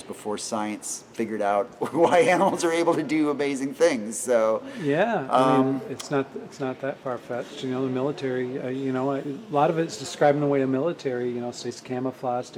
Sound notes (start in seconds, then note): 1.8 laughing